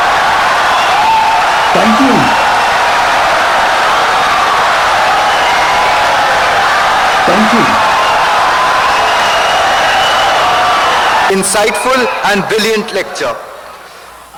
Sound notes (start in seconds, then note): 8.7 wild applause and cheering for 17 seconds